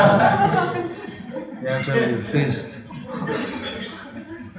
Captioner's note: laughter